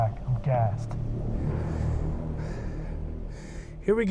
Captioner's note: panting breaths